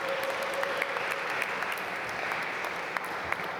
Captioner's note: applause